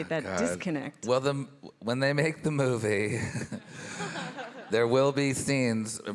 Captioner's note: chuckles